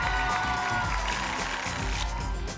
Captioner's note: applause and cheering cont; tickets shuffling